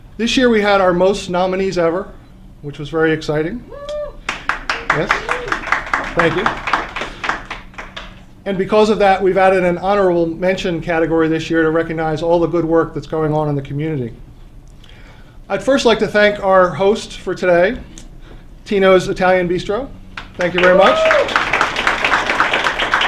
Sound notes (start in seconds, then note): 4.2 applause; 22.8 applause